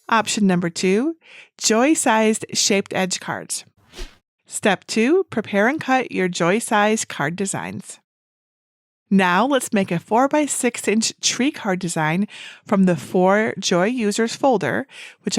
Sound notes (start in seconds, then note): 3.9 screen whooshes